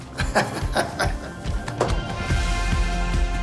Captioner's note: laughs